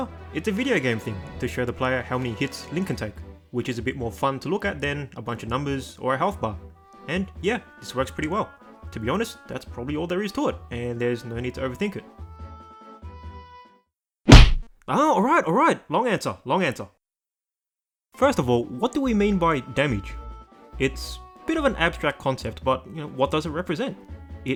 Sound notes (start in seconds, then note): 14.2 whack